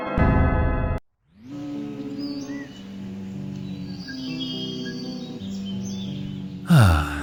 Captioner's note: birds chirping; light music